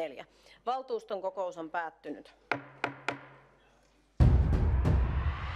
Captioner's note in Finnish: Nuijan kopautus